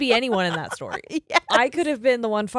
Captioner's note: giggles loudly